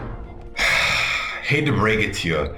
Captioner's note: sighing